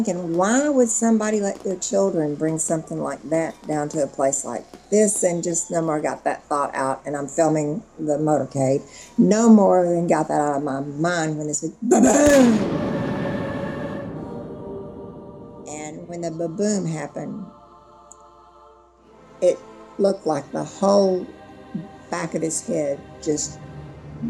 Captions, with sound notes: why would somebody let their children bring something like that down to a place like this? And just no more got that thought out, and I'm filming the motorcade, no more than got that out of my mind when this went, ba-ba-boom. [gunshot blasts] [haunting music] And when the ba-boom happened, it looked like the whole back of his head just blew off.